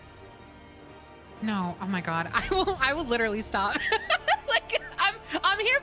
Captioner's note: laughter